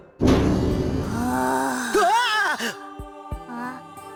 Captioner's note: zombie groan